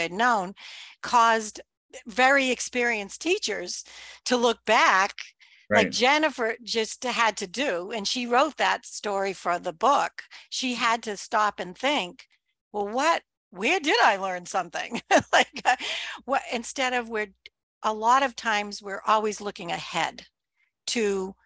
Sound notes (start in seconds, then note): 14.8 laughs